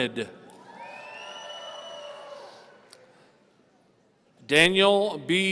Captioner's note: audience cheering